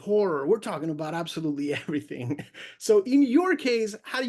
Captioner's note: laughs